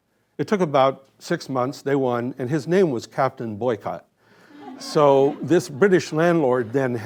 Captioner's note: laughter